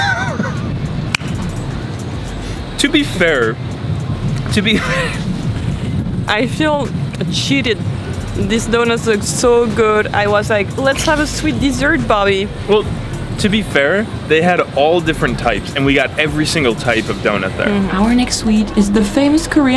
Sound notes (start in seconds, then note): 4.6 laughs